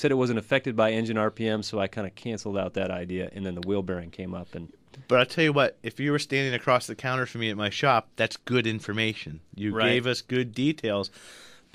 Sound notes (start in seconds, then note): none